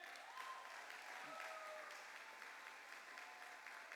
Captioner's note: cheers and applause